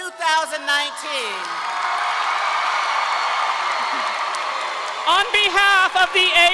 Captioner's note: audience clapping and cheering